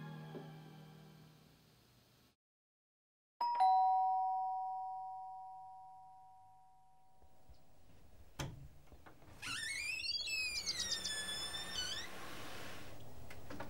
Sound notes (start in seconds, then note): 3.4 doorbell rings; 8.8 door creaks